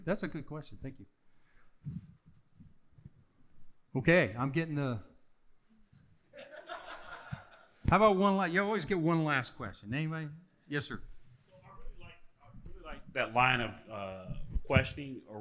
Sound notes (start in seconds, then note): 6.4 audience laughing